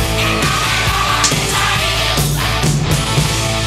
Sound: slap

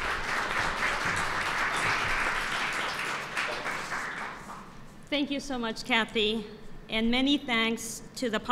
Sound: applause

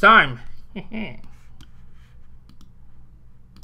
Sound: cartoon chuckle

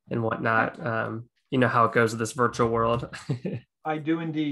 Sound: chuckling

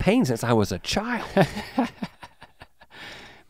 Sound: Link chuckles

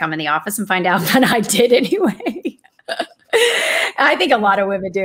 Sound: laughs

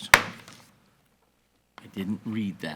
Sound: gavel bangs

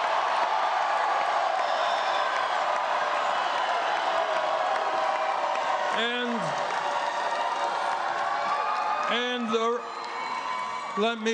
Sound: cheers and applause

